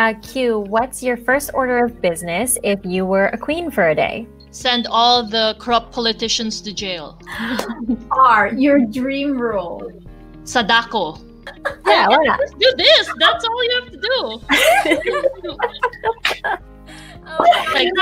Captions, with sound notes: Q - What's your first order of business if you were a queen for a day? Send all the corrupt politicians to jail. R - Your dream role Sadako Just do this! That's all you have to do! [LAUGHS]